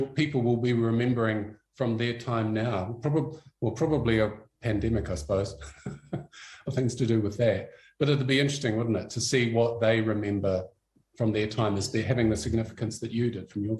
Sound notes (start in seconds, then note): 5.6 laughs